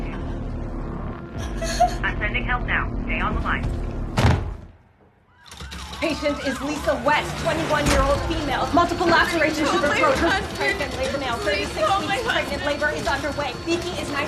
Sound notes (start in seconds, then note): 4.1 thudding